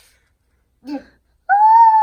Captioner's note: howling sound